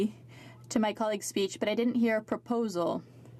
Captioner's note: speaking French